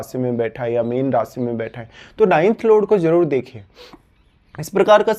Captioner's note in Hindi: नाक से की जाने वाली आवाज़